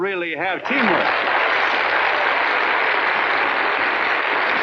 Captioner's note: applauding